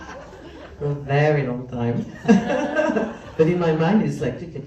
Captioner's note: laugh